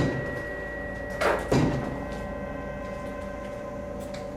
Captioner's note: eerie music continues; door bangs